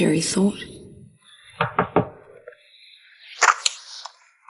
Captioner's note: knocking